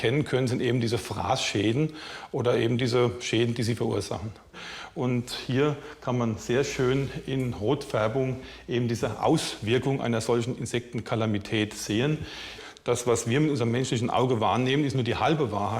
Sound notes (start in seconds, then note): none